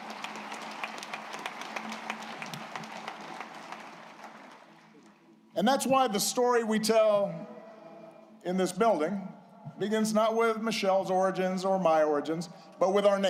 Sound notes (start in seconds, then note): 2.0 applause